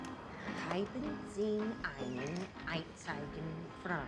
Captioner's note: speaking broken german